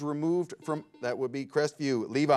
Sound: bell rings

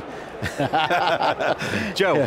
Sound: laughs

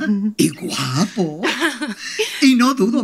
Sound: Juliet giggling

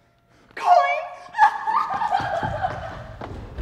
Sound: crying

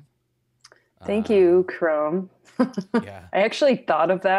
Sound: laughs

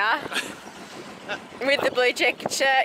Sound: laughing

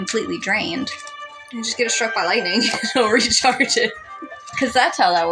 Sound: chuckle

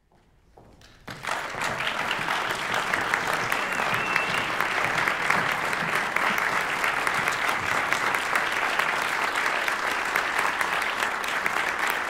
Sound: applause

